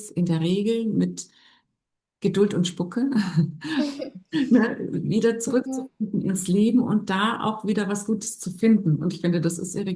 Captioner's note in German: gelächter